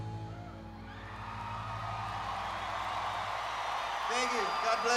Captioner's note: audience cheering